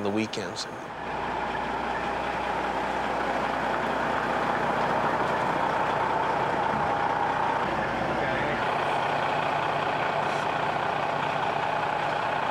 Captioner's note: sound of truck in reverse